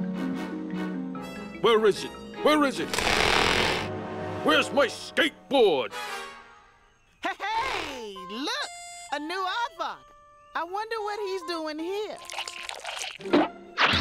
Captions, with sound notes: WHERE IS IT? WHERE IS IT? WHERE'S MY SKATEBOARD? HE-HEY! LOOK. A NEW AARDVARK. I WONDER WHAT HE'S DOING HERE. (wet chewing)